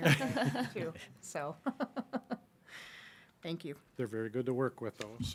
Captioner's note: laughs